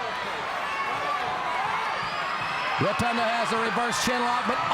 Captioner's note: crowd chatter